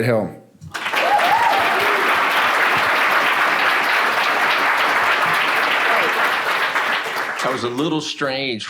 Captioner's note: applause and cheering